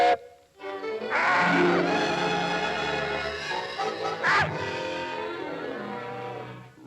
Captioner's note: Sinbad whistles; bird squawks; dramatic music